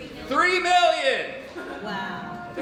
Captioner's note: chuckling